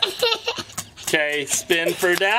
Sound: giggling

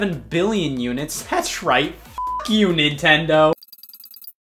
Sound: beep

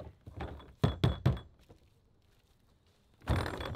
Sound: banging

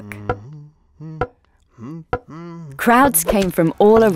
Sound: mallet banging

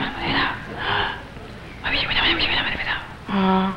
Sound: man whispers

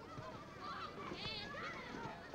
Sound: children shouting

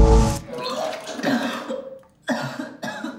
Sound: vomits

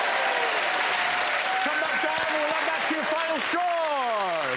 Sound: cheering

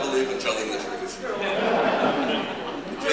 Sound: laughter

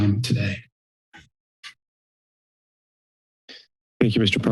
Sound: silence

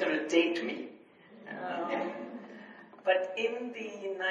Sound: audience laughs

